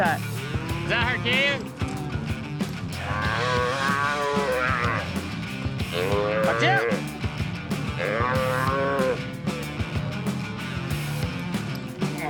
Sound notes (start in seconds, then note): 3.0 calf moos; 8.0 calf moos